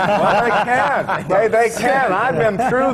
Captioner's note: laughter